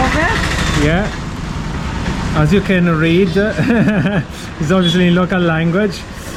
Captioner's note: laughing